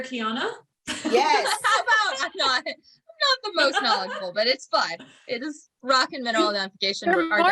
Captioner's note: laughs